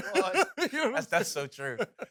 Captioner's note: laughs